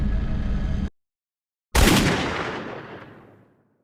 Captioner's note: gunshot echoes